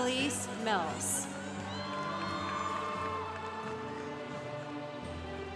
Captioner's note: congregation applauding